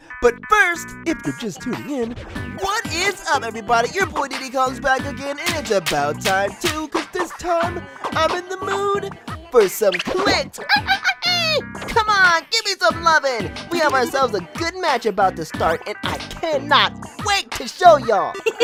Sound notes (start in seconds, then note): 9.8 chimp noises; 17.9 giggles